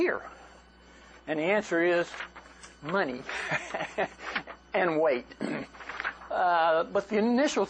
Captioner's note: laughter